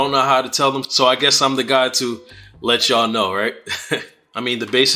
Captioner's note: chuckles